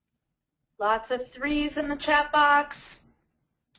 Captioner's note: voiceover